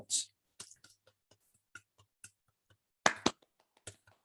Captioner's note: applause